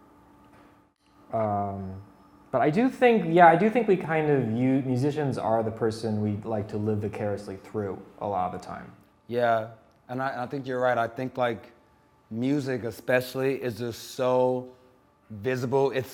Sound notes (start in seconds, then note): none